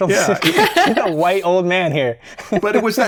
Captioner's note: laughter